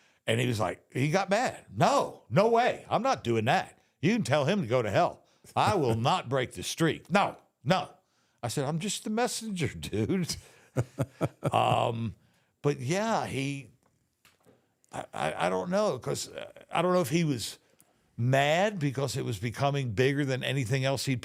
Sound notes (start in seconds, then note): 10.7 Undertaker chuckling